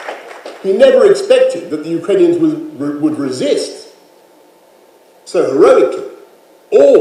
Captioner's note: applause